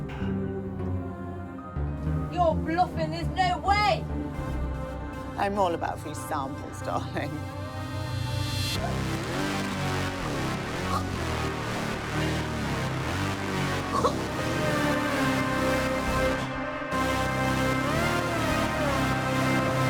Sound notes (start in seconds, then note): 0.6 dramatic music; 8.1 dramatic music; 11.0 all choking; 13.2 dramatic music